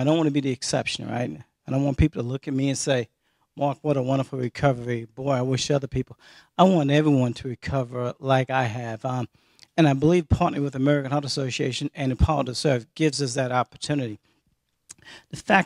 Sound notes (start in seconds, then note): none